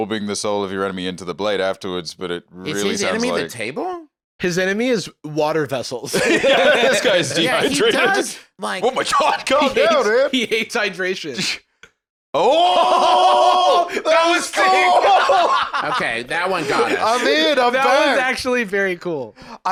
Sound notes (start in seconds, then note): 14.7 laughing